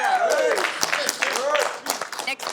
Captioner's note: cheers and applause